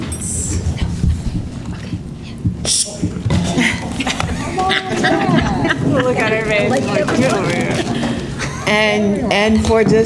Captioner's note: laughter